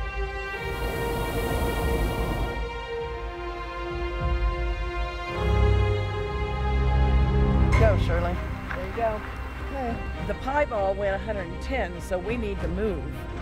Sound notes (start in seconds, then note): 0.0 tense music; 0.4 blast valve turning on